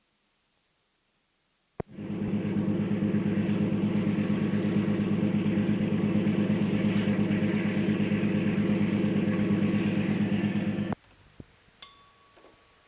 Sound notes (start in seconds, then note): 1.9 sound of train moving; 11.8 bell Sound